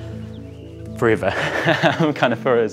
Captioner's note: chuckles